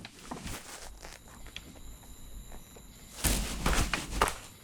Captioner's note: crickets chirping